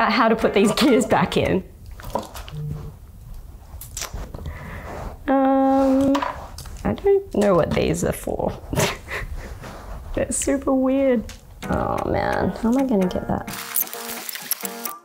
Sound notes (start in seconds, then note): 8.7 laughing